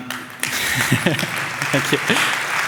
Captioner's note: applause